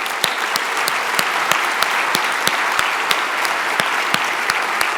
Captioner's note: audience applause